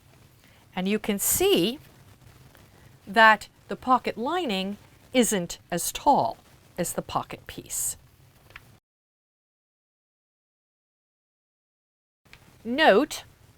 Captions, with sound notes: and you can see that the pocket lining isn't as tall as the pocket piece. *No Sound Present* Note,